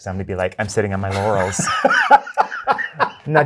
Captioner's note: guy laughing